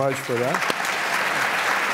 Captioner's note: applause